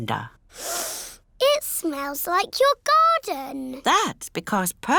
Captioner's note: sniffs